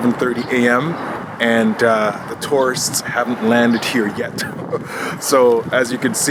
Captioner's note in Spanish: risitas